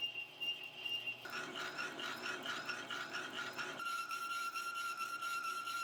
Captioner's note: face plate whirring